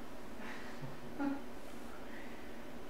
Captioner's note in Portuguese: risos